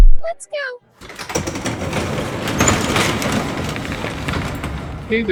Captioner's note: heavy, metal doors opening